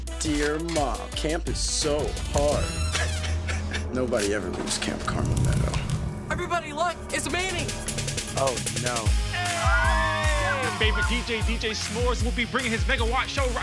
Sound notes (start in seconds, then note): 9.2 kids cheering